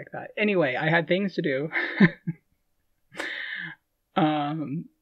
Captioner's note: laughing